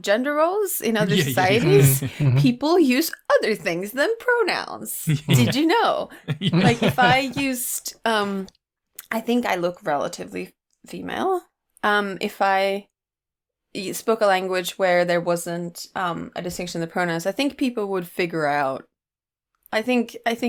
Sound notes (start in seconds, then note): 6.1 laughter